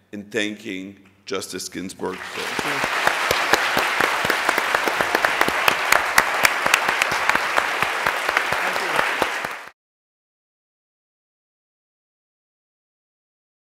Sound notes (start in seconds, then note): 2.1 applause